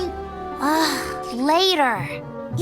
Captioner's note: sighs